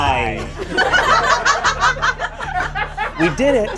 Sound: audience laughs

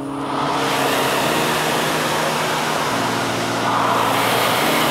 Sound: equipment whirring

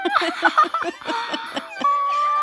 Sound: laughing

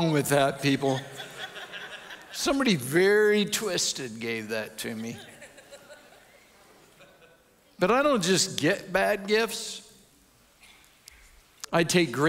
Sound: audience chuckles

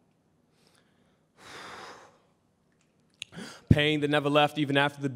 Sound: exhales heavily

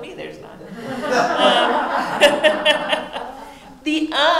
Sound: audience laughing

